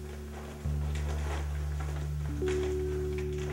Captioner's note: folding plastic